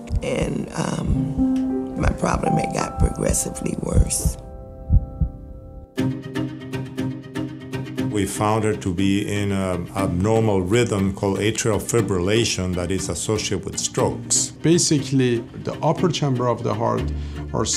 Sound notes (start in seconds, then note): 4.6 heart beating; 6.0 intense music